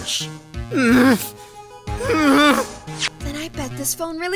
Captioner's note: groaning